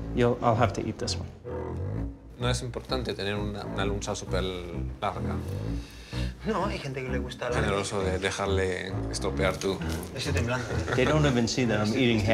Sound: men speaking Spanish

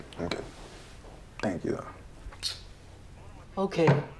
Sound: clicks tongue

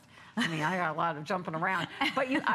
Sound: laughter

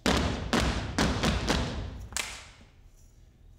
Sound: feet tap

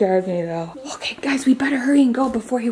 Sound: whispers

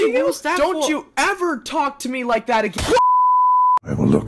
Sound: smack; TV Color Bars Sound Effect

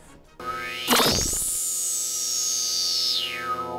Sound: sound Effects

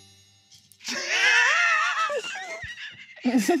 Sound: laughter

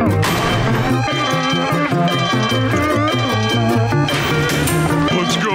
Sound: alarm sounding

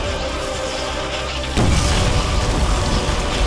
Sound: lightning striking

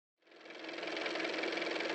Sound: car motor

